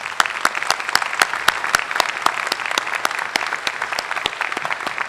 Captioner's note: applause